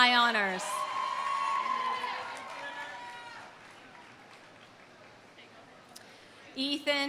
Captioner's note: audience cheering; audience applauding